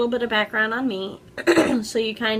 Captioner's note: clears throat